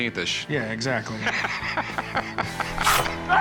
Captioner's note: laughing